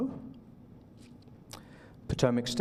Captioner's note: silence